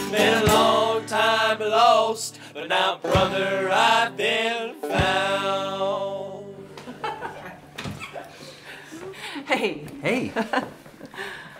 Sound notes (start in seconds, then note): 6.8 Janelle laughing